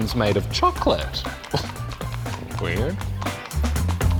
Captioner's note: chuckles